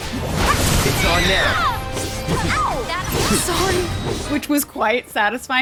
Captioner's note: screams